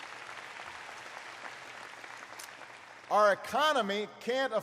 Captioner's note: applause